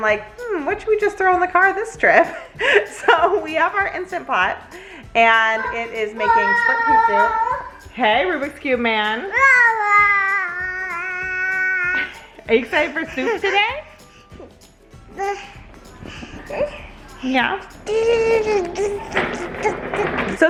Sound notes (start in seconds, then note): 6.2 excitement shouting; 9.9 making playful noises; 18.6 making playful sounds